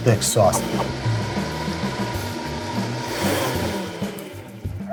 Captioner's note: blender whirring